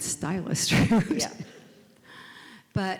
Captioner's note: laughs